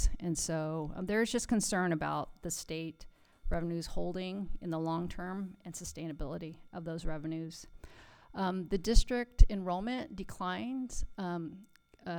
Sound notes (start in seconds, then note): none